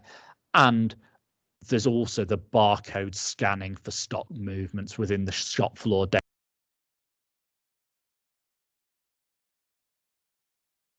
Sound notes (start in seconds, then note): 6.6 sound cuts out